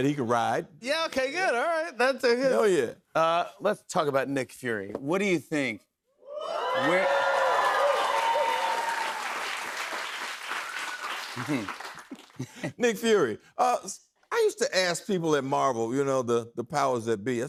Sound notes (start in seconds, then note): 6.3 cheers and applause; 12.1 chuckles